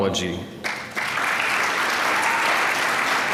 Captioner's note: applause